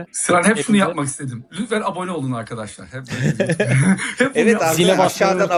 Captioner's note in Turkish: kahkaha